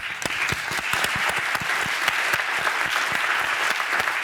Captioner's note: audience applauding